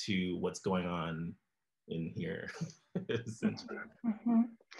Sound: laughs

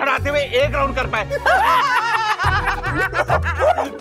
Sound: laughing

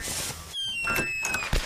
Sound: door Opens

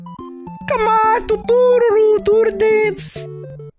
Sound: Mayro voice

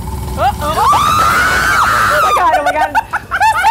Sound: screaming

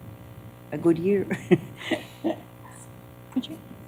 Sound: laughter

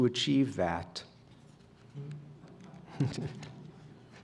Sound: laughter

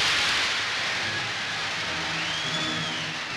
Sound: applause

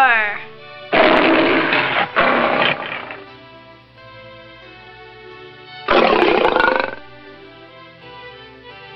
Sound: lion roaring sound

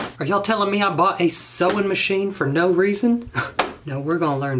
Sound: sob

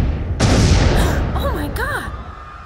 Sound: explosions; gasp

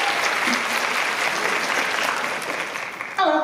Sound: applause

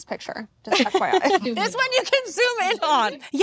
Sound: laughs

